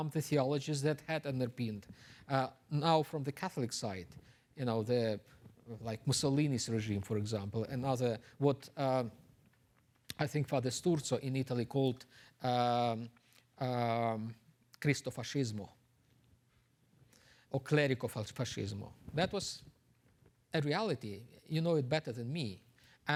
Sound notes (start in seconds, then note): 12.2 speaks Italian